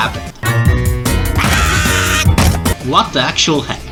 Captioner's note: very annoying scream